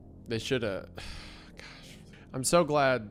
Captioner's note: sighs